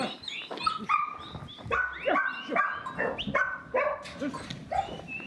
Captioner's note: dogs barking